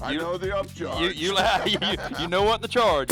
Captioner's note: laughs